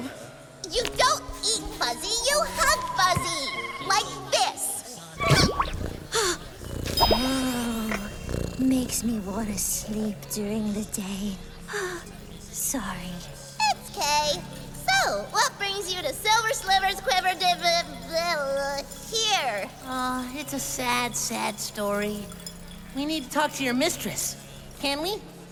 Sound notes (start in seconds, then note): 11.7 sighs